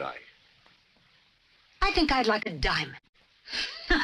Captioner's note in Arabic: يضحك